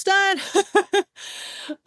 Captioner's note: laughs